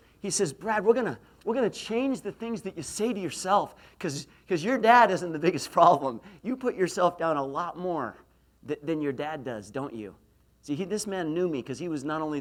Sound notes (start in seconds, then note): none